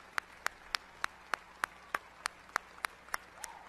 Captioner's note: cheers and applause